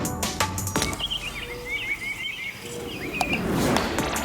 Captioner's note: birds chirping; lively music continues